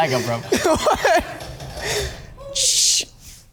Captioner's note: Gianni laughs